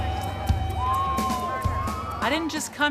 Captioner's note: crowd cheering